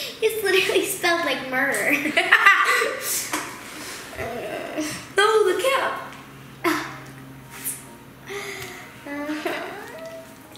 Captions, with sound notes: - It's literally spelled like "murder". (laughs) (groans) - Oh, the cap!